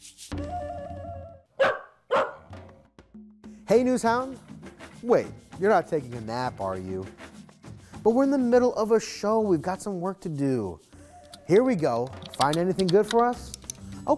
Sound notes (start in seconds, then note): 1.6 dog barking